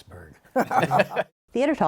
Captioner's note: laughter